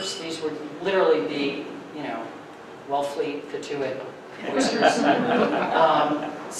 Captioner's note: audience laughing